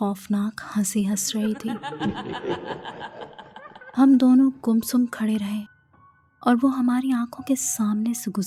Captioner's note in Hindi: हंसी